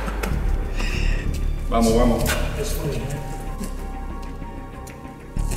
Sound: speaking foreign language

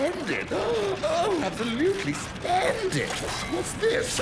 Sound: gasping

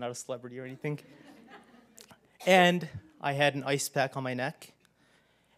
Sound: laugh

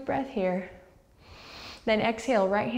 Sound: deep breath

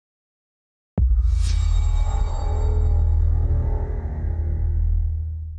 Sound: transition sound

